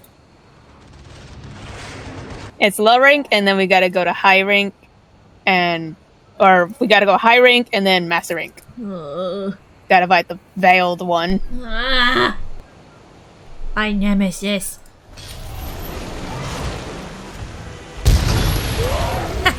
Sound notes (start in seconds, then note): 8.7 moans in the coming doom; 11.3 groans in certain death